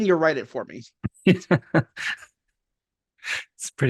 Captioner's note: laughs